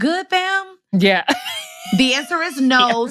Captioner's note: laughs